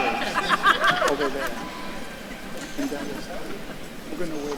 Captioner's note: faculty member laughing; faintly speaking